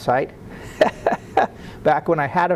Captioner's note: laughing